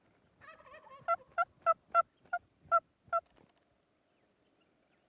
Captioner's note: turkey calling